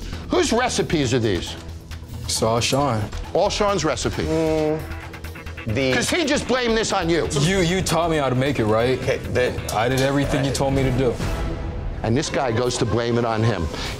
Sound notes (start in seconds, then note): 5.0 groans